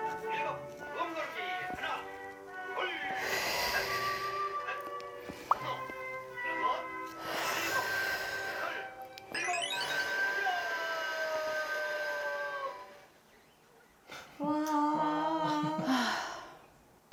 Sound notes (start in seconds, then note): 5.5 catching their breath too